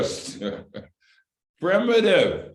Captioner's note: laughter